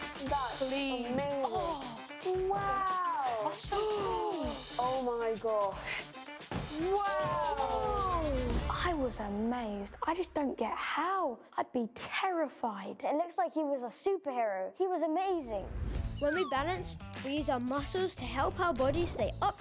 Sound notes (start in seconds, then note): 4.3 gasping